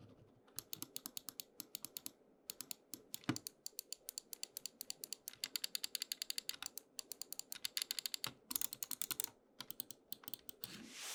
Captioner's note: mouse clicks